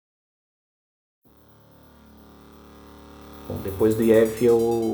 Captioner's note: electrical buzz